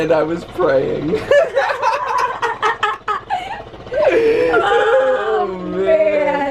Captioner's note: laughter